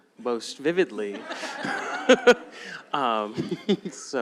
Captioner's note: laughter